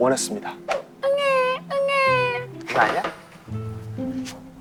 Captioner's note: crying